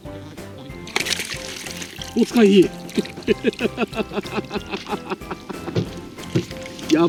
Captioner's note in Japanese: 笑い